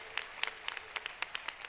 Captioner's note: applause